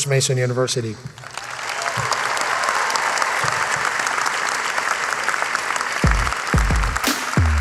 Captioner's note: applause